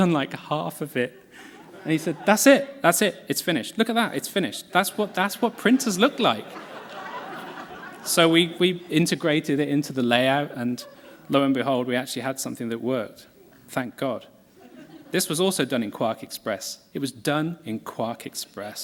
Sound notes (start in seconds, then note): 5.4 laughter